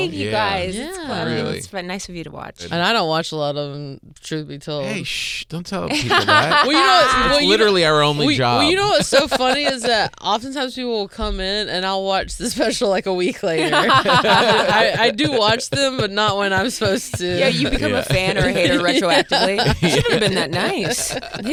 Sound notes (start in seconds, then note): 5.9 Beth laughing; 13.9 laughing